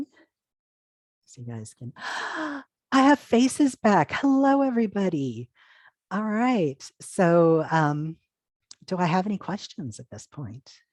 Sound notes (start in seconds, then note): 2.0 gasp!